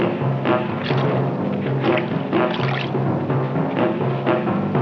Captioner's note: puddle splashing